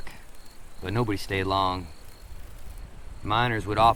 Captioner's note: insects chittering